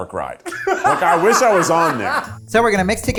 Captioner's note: laughs